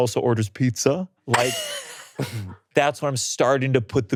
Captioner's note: laughing